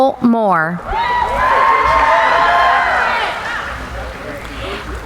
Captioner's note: cheering